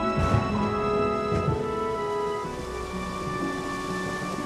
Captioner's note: thunder rumbling